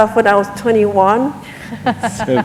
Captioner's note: laughter